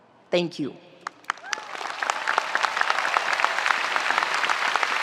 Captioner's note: spectators applauding